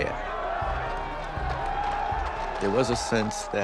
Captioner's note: crowd shouting